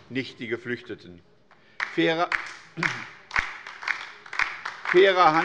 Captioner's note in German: Beifall bei der LINKEN